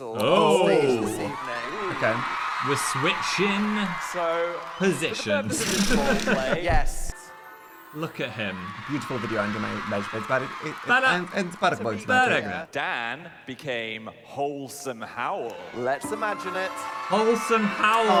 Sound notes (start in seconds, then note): 5.5 both laughing; 7.6 magical tinkling; 10.3 babbling